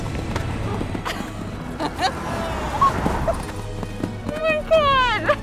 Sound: laughs

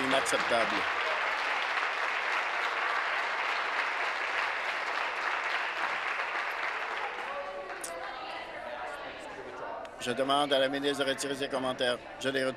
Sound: some Applause

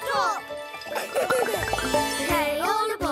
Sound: laughing

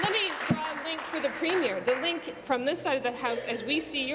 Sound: applause

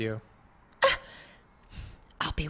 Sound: gasp

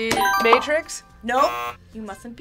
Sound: buzzer rings; buzzer

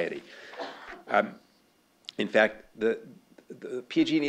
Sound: cough

